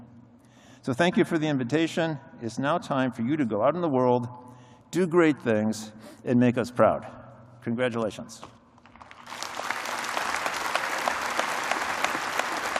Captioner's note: applause